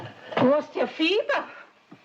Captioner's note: none